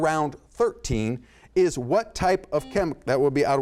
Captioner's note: buzzer sounds